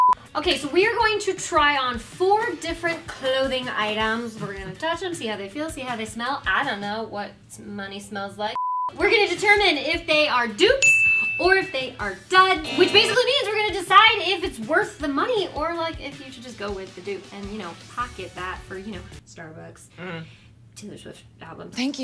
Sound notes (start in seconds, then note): 0.0 beep; 8.5 beep; 10.8 ding; 12.2 buzzer sound